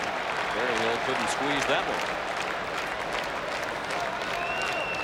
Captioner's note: applause